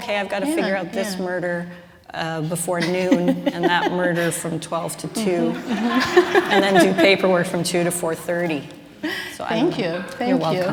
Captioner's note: laughter